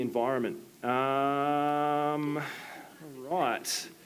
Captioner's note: sighs